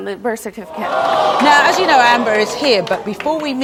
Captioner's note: audience boos